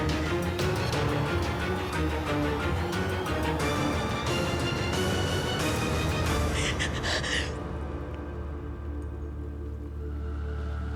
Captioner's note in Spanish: sollozos